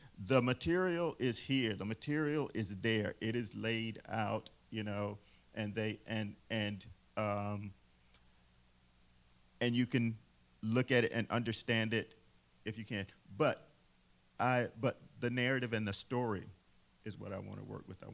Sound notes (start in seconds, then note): none